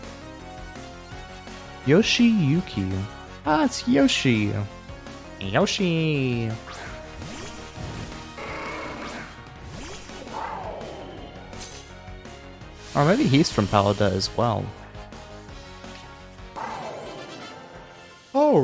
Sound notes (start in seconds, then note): 5.5 Yoshi noise